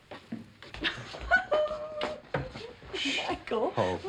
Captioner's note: laughing